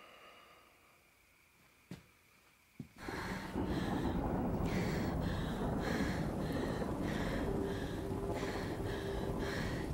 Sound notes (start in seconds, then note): 1.9 boots thudding; 3.0 Stephanie panting